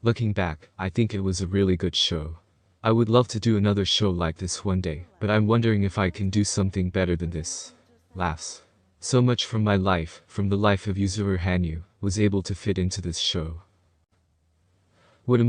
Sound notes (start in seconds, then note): 8.4 laughs